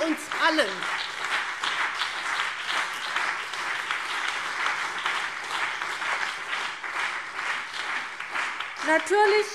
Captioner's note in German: Beifall CDU und BÜNDNIS 90/DIE GRÜNEN